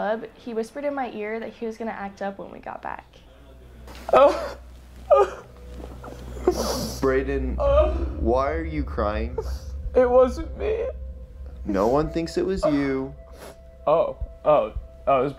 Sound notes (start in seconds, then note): 5.1 crying; 7.9 crying